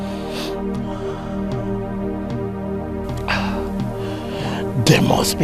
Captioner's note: snorts